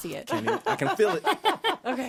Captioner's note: she laughs